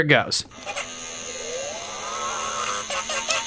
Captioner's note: electronic aquatic boot-up noises; electronic dolphin noises